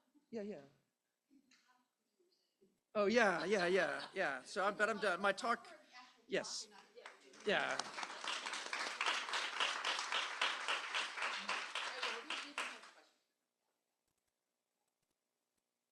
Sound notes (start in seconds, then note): 8.5 applause